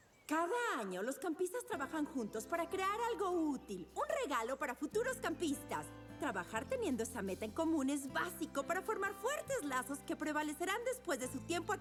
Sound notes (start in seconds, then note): none